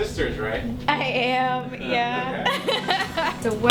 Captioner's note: laughs